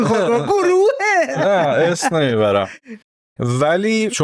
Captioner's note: laughs